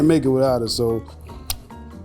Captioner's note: lips smack